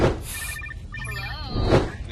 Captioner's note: ringing